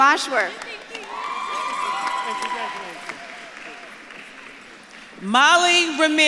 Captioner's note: audience claps and cheers